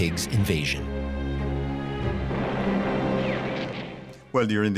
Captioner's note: artillery blasting